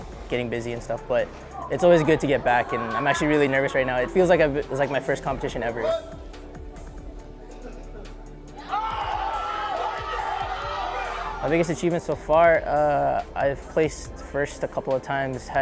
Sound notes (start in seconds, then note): 8.5 crowd cheers